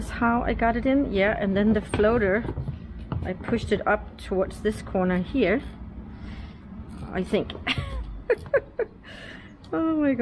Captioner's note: laughing